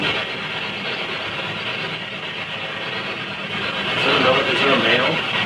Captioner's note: static crackling